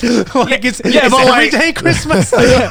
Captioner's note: chuckles; group laughs